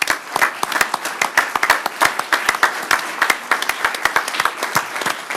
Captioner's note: applause